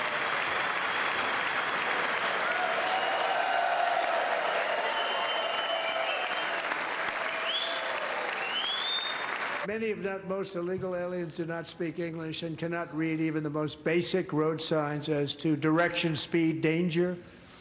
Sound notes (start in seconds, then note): 0.0 applause; 6.9 cheers and applause